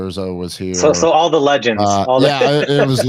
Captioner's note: laughs